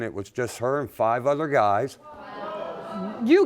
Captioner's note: audience gasps